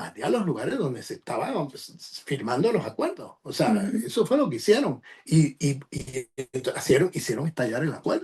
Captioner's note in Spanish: carraspeo